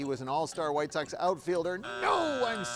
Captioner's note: buzzer drones